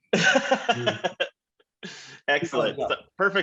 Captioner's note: laughs